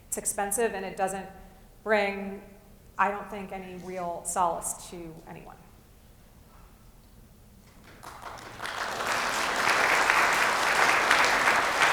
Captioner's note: applause